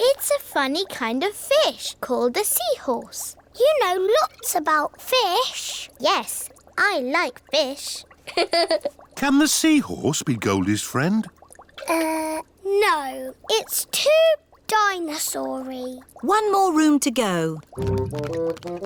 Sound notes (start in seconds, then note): 8.5 laughs